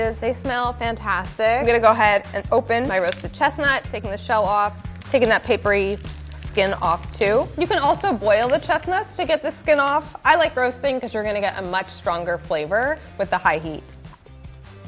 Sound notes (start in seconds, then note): 2.8 nut cracks